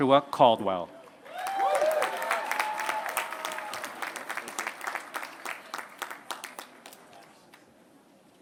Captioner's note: applause